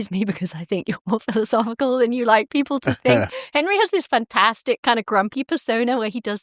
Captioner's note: chuckles